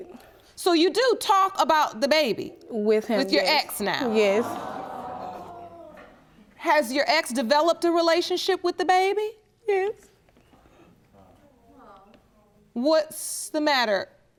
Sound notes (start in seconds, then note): 4.0 audience groaning; 9.2 sobbing